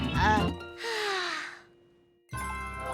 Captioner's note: smooth music; Milo sighs; pleasant music